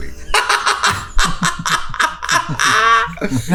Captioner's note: laughs